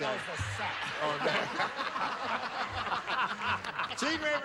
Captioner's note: laughter